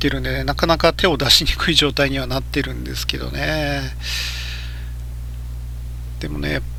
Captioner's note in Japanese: ため息